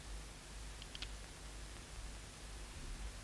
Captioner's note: gun clicks